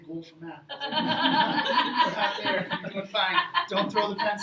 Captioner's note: crowd laughs